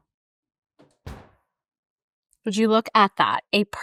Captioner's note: oven thuds